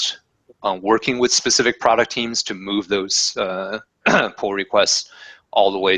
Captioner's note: cough